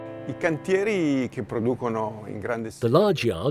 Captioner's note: speaking in foreign language